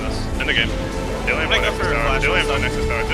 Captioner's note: players shouting